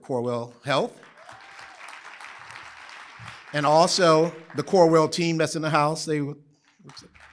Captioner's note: applause